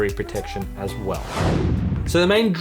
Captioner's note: air whooshes